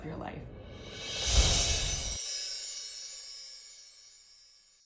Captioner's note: light bells